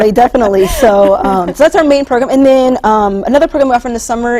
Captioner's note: laughter